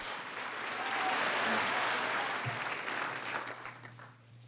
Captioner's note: applause; applause ends